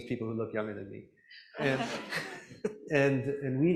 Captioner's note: laughter